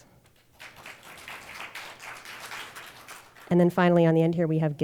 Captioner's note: audience applauding